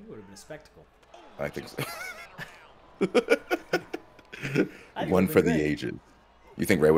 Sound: laugh

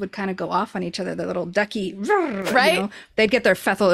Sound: imitates cartoon ducks talking

